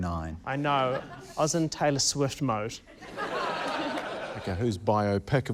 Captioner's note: laughter